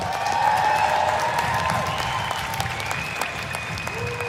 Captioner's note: applause; cheers and applause